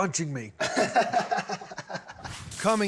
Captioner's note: laughs